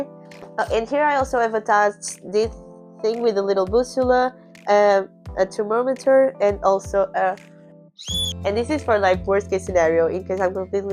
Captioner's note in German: Pfeife